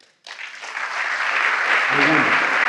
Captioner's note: applause